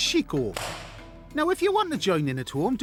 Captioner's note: thumps